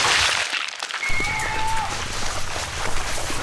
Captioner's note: screaming